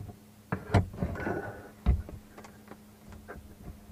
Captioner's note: door unlatching, squeaking open